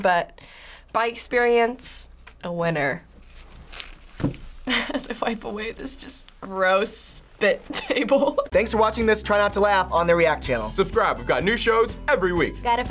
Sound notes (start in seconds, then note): 4.8 laughs